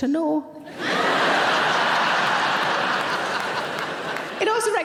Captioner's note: audience laughing